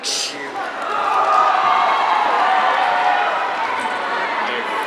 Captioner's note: audience cheering